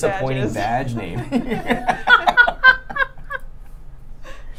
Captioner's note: laughing